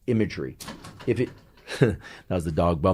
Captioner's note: door banging